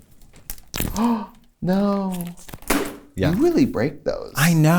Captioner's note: gasps; thud